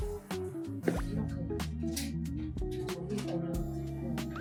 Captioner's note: slurp